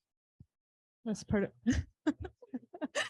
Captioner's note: laughs